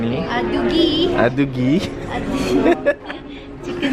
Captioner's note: laughs